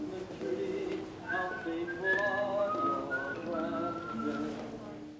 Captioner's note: over intercom; whistling